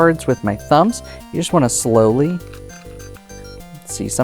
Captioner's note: cards riffling